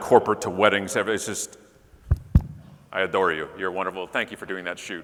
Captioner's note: banging on microphone